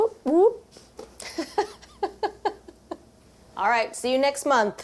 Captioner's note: laughs